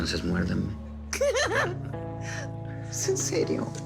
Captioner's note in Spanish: Risas